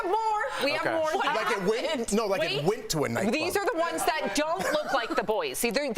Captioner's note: laughter